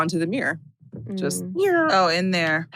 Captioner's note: zooming noise